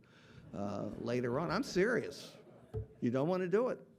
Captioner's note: audience laughing